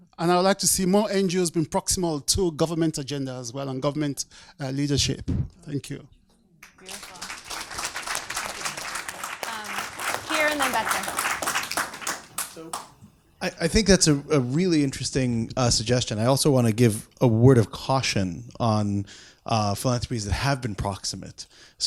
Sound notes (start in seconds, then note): 6.6 audience applauds